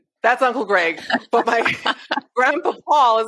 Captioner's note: laughs